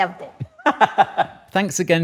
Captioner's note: laughs